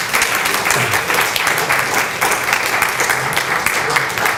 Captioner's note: clapping